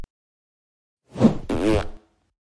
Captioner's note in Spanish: FX - Whoosh - 03